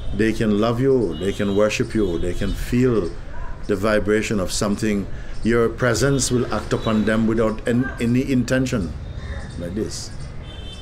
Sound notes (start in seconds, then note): none